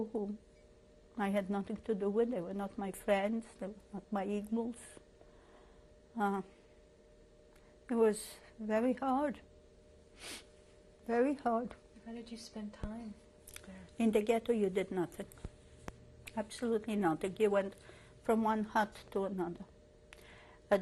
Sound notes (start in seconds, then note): 4.8 pauses for 3 seconds